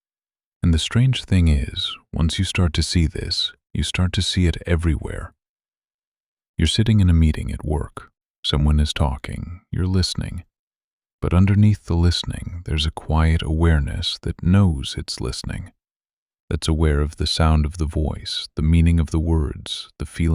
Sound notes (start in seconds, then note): 2.1 quiet and steady